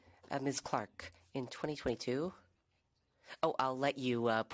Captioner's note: speaking French